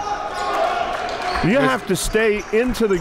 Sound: cheering and applauding

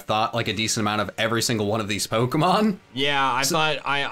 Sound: chuckles

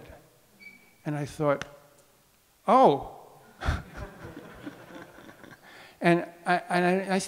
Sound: audience laughs

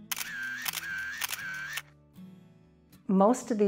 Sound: camera shutter clicks

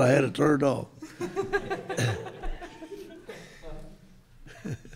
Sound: group laughing

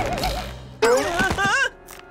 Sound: yelps

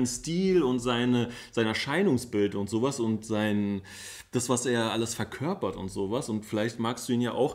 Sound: none

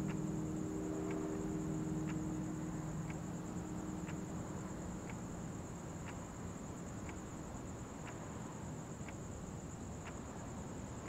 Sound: clock ticking

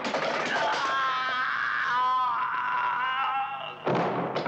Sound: man groaning

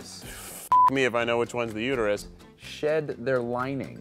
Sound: beep

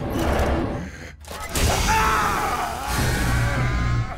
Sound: groaning

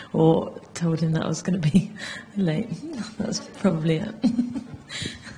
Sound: laughs

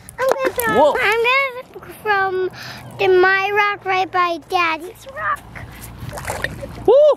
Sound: water splashing

